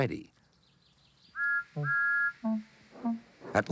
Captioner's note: toot toot